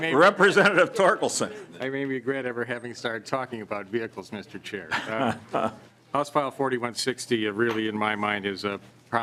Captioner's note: laughing